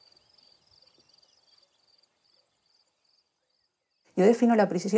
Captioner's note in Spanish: pájaros